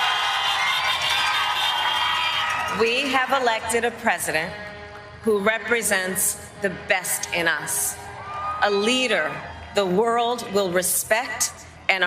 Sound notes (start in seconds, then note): 3.6 cheers and applause